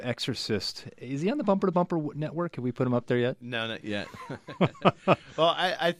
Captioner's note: both laugh